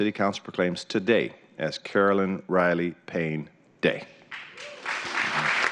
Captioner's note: applause